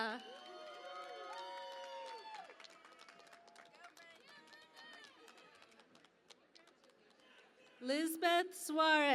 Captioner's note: cheering and Applause